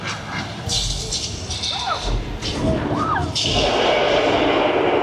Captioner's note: dinosaurs growling continues